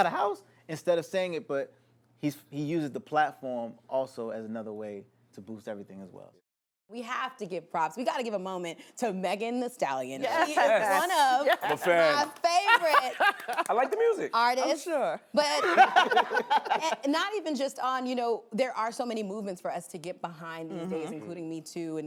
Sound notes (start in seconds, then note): 10.2 laughs; 15.4 laughter